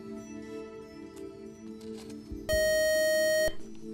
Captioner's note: beep